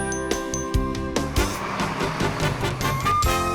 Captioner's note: car engine revs; upbeat music